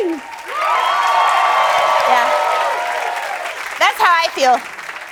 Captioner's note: cheers